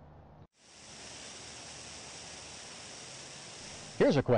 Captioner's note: sound of sprinklers